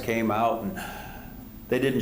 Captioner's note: gasps